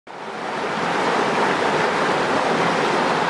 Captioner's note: rushing water